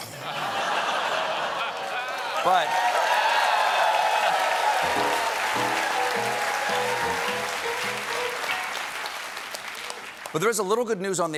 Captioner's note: laughter; cheers and applause